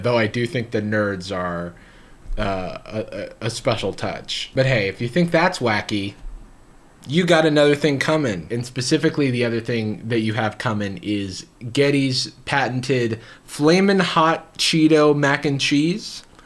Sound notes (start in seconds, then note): none